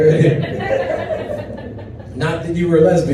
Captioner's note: audience chuckles